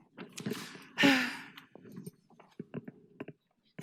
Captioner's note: sighing